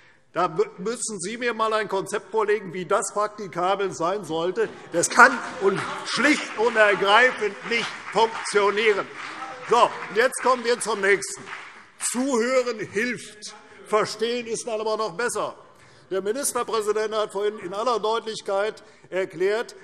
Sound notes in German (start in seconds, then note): 9.1 Beifall CDU und BÜNDNIS 90/DIE GRÜNEN